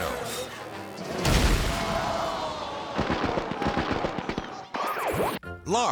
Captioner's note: crowd shouts; fire roars